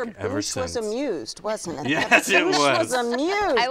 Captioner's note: chuckles